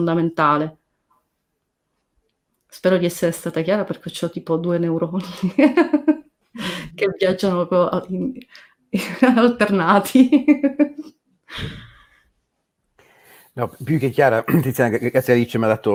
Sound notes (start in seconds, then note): 5.2 laughs